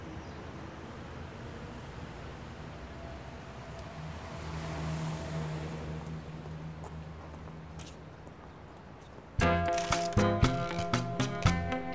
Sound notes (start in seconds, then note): 5.9 footsteps approaching